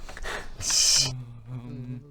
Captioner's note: laughs